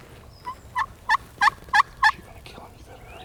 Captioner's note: turkey call